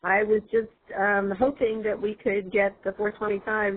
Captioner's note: voiceover